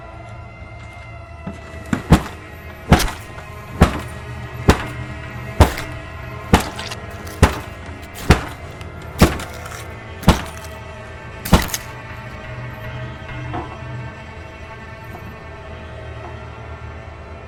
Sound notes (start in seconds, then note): 2.9 weapon hitting flesh; 6.4 bloody, hard hits